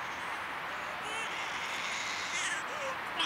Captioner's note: baby crying